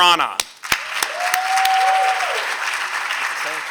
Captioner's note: applause